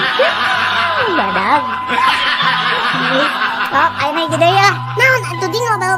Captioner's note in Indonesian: tertawa